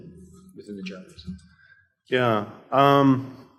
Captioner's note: mumbles